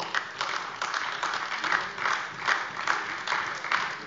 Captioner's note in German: Beifall AfD